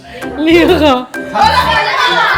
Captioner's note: laugh; speaking German